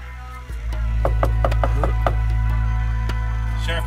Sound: knocking

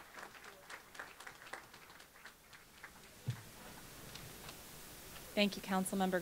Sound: applause

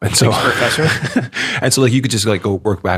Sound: chuckles

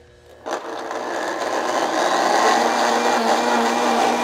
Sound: blender whirring

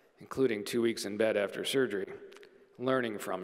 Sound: none

